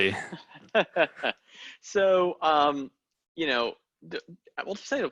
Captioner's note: laughs